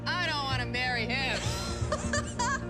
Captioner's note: laughs